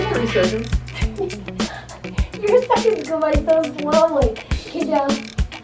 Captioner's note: laughing